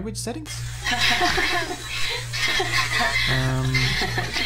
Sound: The RX-394 laughs

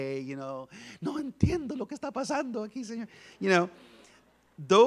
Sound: speaks in Spanish

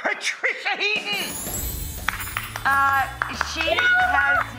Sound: clapping

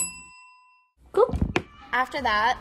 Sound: bell ringing

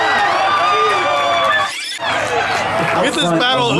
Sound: crowd cheering

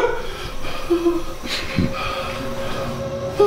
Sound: David whimpering

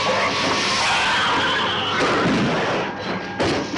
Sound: hissing; gun firing

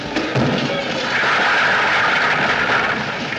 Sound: bang, Crash!

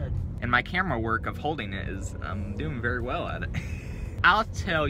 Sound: laughter

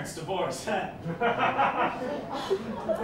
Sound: laughter

